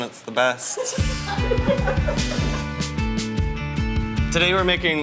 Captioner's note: laughter